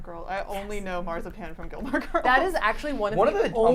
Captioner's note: chuckles